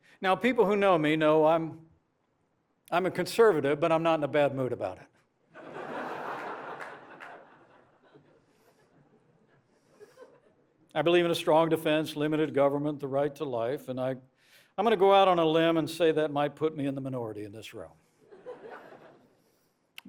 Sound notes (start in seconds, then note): 5.5 laughter